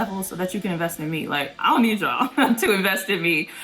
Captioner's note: laughs